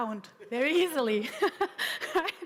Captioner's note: laughter